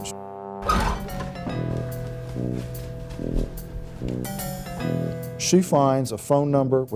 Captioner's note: hangars scraping